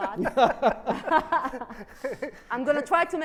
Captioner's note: laughs